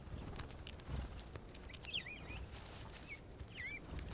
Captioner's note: birds chirping